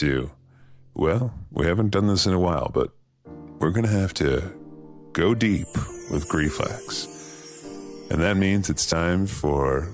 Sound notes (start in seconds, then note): 5.4 chimes